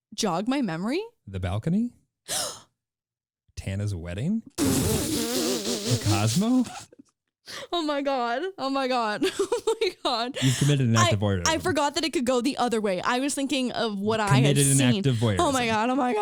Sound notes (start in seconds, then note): 2.9 gasps; 5.0 muffled laughter